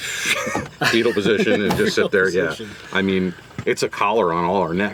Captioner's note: laughs